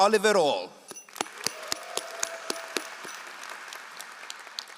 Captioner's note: all applauding